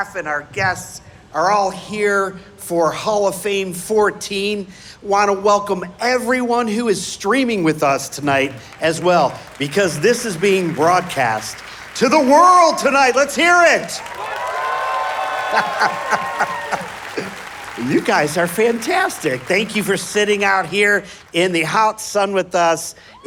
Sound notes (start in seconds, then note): 14.6 audience applauding; 14.6 audience cheering